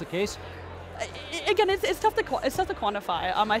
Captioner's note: stammering